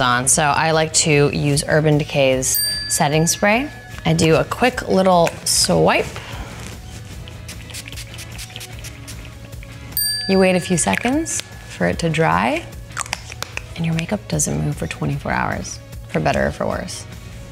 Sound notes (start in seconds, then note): 10.0 ding